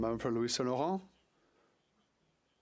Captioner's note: speaking French